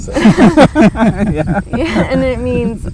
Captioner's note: laughing